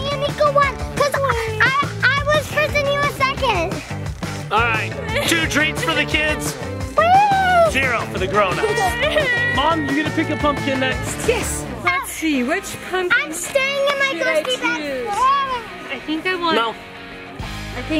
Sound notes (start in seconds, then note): 8.6 crying